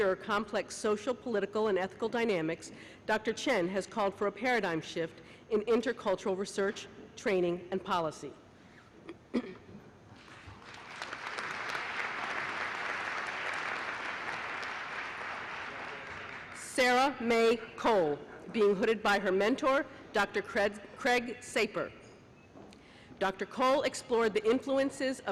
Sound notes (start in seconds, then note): 10.5 applause